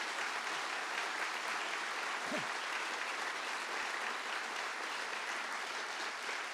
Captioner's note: applause